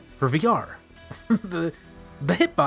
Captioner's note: chuckle